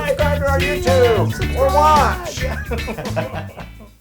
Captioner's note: laugh